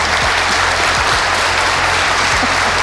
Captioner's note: applause; laughs